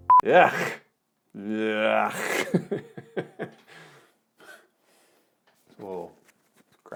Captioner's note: laughing